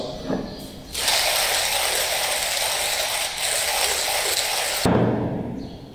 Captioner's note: hand mower blow sound